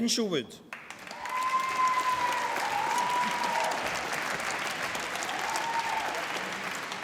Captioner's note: applause